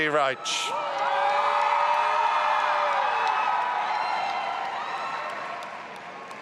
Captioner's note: audience applauding and cheering